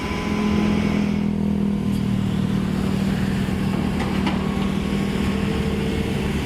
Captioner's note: engine Rev